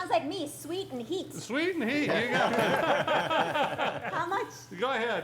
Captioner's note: laughing